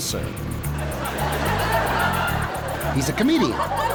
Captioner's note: audience laughs